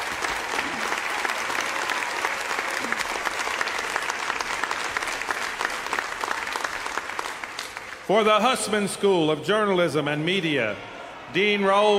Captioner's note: applause